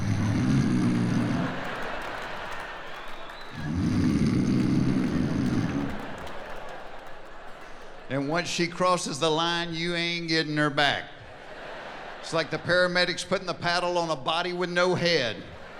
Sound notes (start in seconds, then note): 0.0 snoring; 1.8 laughing; 3.6 snoring; 6.3 laughing; 11.4 laughing